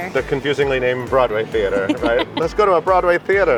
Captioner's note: laughing